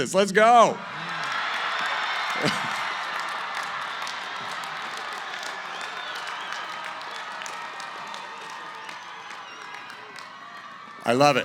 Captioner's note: cheering